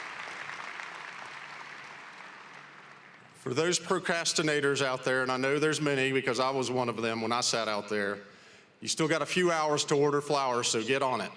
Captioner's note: applause